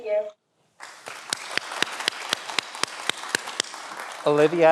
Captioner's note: everyone applauds